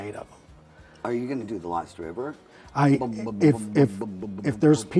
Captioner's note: mimics drumming